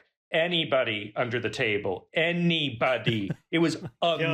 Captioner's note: laughs